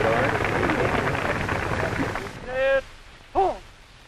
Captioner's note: applause